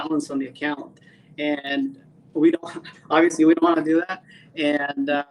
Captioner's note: chuckles